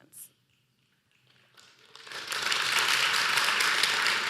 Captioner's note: applause